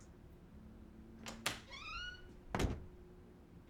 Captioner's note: door opens, shuts